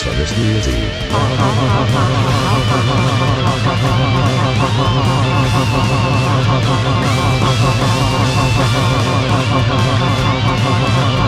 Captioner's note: laughs